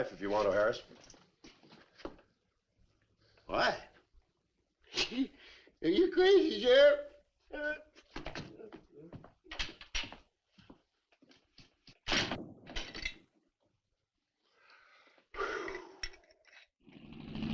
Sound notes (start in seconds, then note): 4.9 scoffs; 15.3 sheriff gasps